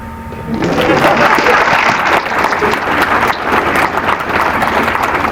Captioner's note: applause